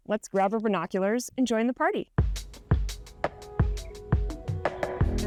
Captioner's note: birds chirping